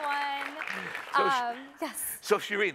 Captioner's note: applause